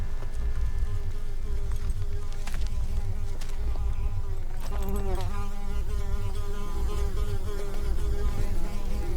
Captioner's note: flies buzzing